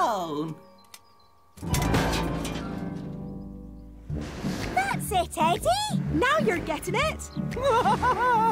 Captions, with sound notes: -That's it, Eddi! -Now you're getting it! [both laughing]